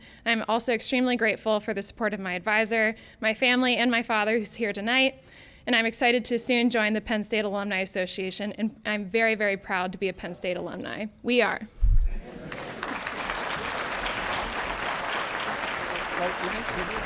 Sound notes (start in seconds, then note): 12.1 crowd; 12.3 applause